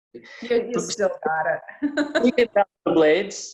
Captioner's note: laughs